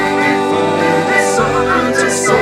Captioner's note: birds whistle